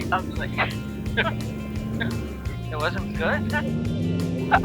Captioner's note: laughs